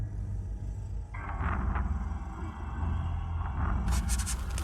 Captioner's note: pencil clattering; eraser rasping